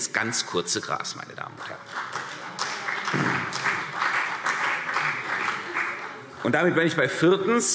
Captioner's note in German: Beifall CDU